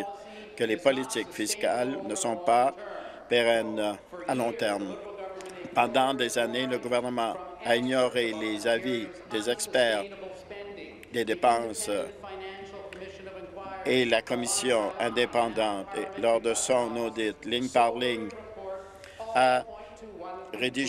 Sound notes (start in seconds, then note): none